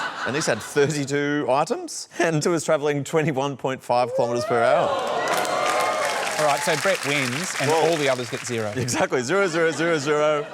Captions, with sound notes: Anisa had 32 items and she was travelling 21.5km/h. (APPLAUSE) Alright. So Brett wins and all the others get zero. Exactly. Zero, zero, zero, zero.